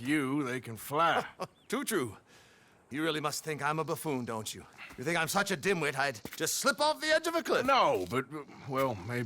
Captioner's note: laughs